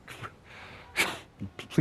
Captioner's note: chuckles